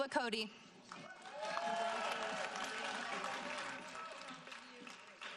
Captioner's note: audience applauding